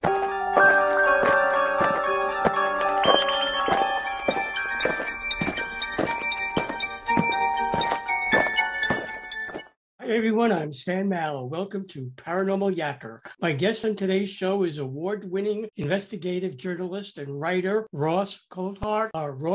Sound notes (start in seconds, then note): 0.0 eerie music; 5.1 alien footsteps